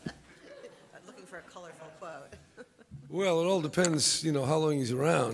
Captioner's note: laughter